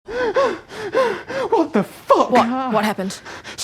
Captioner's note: panting heavily